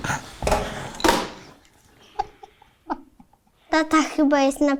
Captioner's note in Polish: Śmiech